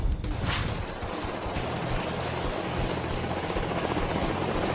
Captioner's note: helicopter flying